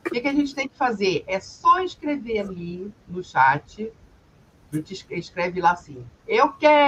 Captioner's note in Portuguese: limpando a garganta